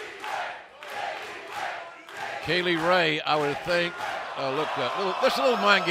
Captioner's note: fans chanting